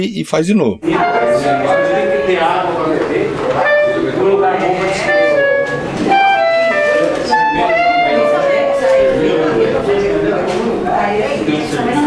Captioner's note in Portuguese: conversas ao fundo e som de trompete